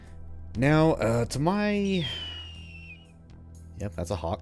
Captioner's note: hawk screeches